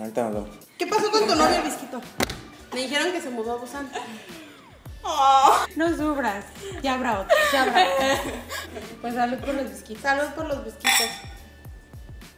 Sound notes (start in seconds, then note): 5.0 cries